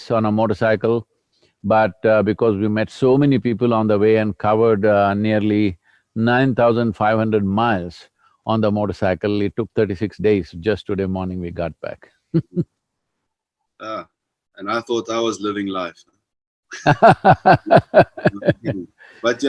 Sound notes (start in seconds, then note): 12.4 laughs; 16.7 Sadhguru laughs